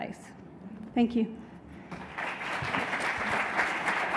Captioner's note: applause